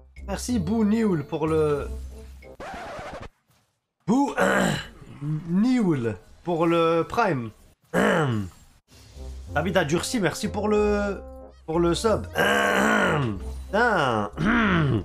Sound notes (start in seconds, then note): 4.2 cough